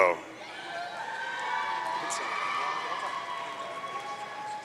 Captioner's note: audience cheering